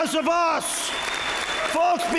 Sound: applause

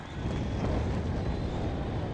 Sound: burning flame

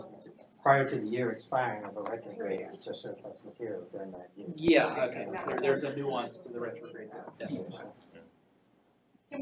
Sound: indistinct chatter

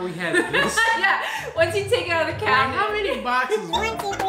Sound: laughs

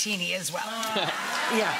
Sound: audience applaud

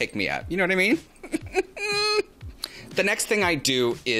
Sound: chuckles

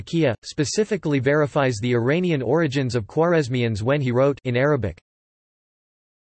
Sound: in Arabic

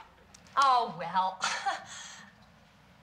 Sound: forced laugh

